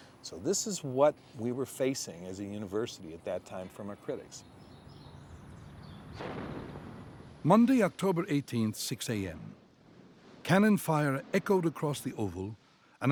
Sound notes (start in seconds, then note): 6.1 cannon shot